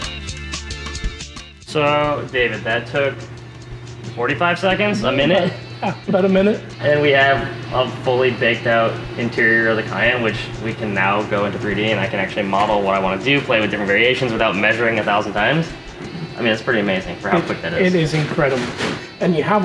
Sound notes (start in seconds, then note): 4.9 laughs